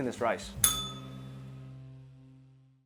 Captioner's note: bell rings